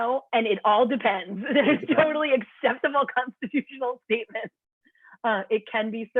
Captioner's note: laughter